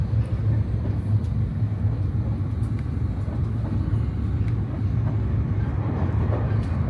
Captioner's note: train